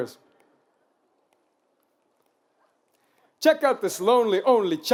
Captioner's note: fingers snapping